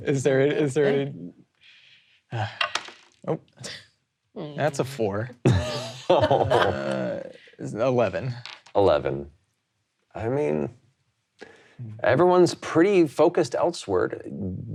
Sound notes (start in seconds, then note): 2.3 sighing; 5.4 laughing